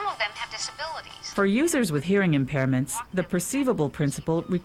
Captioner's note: voiceover